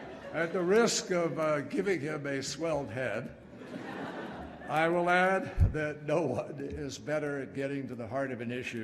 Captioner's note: laughter and applause; laughter